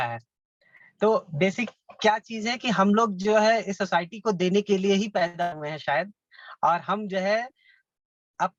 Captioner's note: foreign